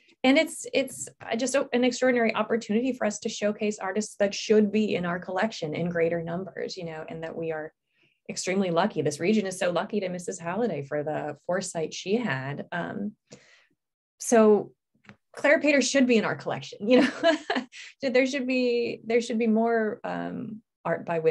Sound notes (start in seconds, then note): 17.0 laughs